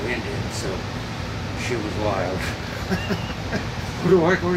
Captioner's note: laughs